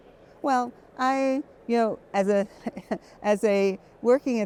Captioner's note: chuckles